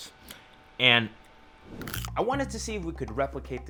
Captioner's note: crunch